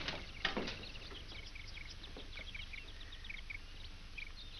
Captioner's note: birds chirp